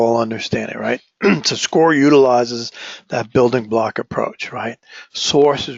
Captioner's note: cough